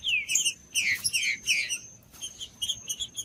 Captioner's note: trinca ferro cantando